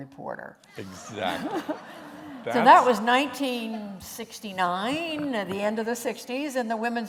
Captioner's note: laughter